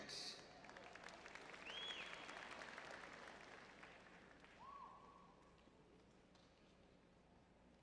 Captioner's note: audience applauding